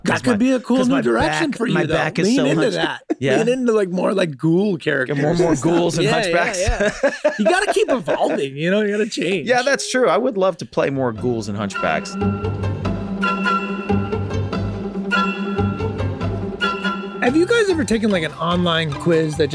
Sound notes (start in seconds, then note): 5.1 chuckles; 12.8 sunny music